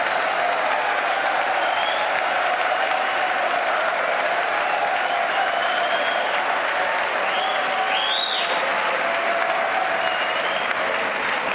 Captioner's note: cheers and applause